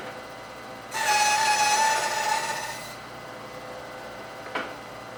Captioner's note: tool squealing